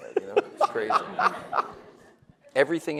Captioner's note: laughs